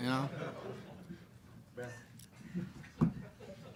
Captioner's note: group laughs